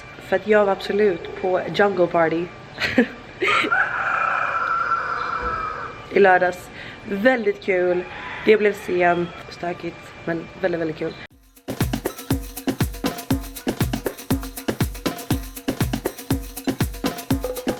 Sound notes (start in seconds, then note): 3.4 more noise from the rooster